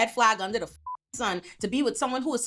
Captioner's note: beep